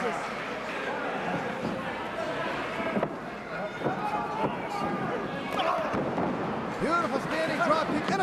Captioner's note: crowd chatter